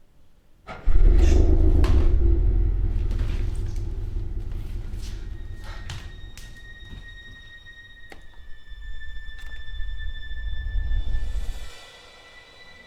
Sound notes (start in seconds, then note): 0.7 truck engine revs; 5.9 suspenseful music